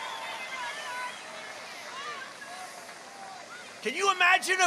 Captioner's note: cheers and applause